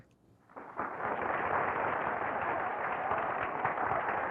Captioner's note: applause